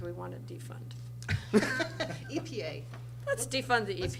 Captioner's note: laughter from crowd